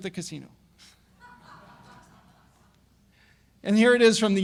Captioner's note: audience laugh